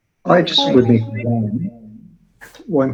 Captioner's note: audio warbles